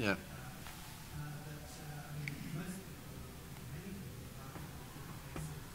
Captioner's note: man speaking off-microphone